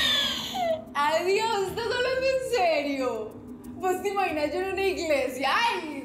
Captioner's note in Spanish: carcajadas